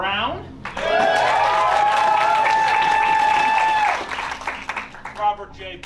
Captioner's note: cheering